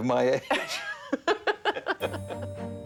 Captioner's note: laughing